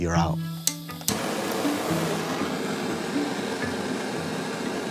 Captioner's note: torch hissing